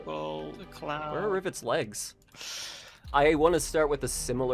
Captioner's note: deep inhale